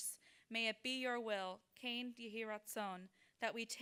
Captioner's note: speaking in foreign language